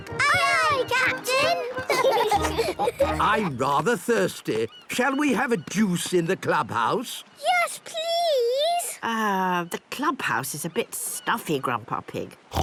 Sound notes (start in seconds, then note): 1.9 laughing